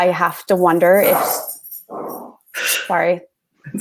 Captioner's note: objects falling